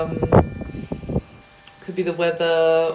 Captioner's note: wind; eerie music